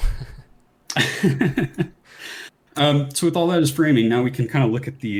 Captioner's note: laughs